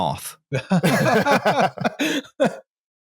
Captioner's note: laughter